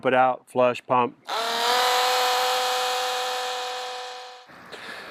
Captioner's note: pump roaring